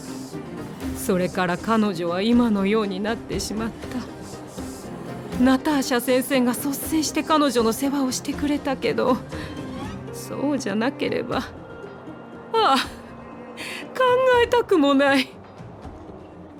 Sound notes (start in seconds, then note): 7.8 sigh